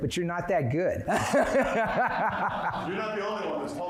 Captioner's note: laughing